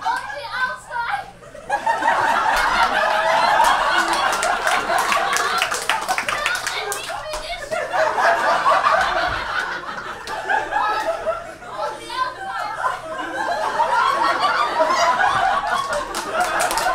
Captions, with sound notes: On the outside. (audience laughs)